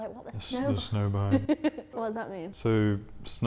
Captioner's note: laughs